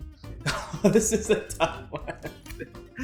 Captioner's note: laughs